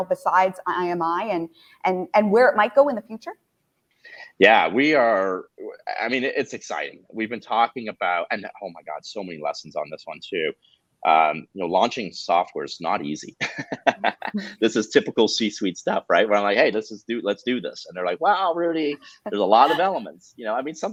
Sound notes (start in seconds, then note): 13.3 laughs